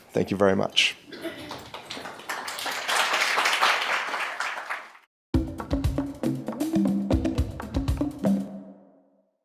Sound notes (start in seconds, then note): 1.1 audience applauding; 5.3 lively drum music